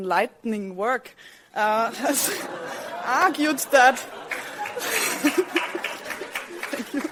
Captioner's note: audience laughs; clapping; laughs